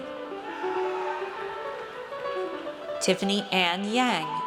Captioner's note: audience cheers